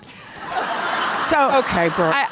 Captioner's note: audience laughter